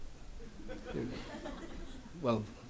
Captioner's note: audience laughs